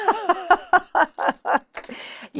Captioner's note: laughs